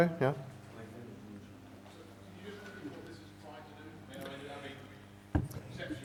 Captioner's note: people speaking softly